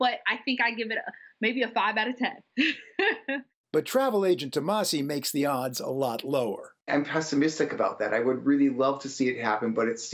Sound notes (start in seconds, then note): 2.6 laughter